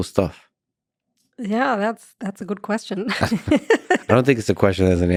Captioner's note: laughs